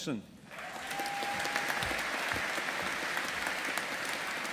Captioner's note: audience applauding